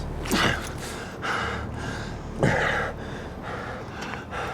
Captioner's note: hard breathing